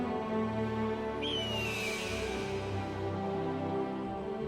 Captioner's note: hawk cry